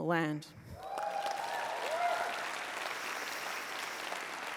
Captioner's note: applause